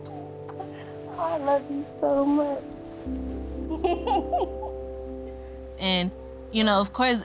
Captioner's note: laughing